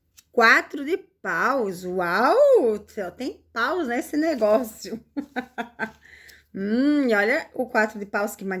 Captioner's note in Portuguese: risadas